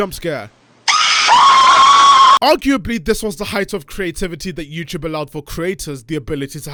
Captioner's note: indian man screaming